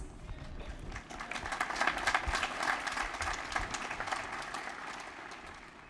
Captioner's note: applause